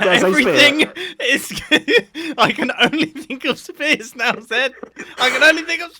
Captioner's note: laughs